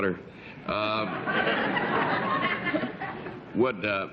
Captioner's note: laughter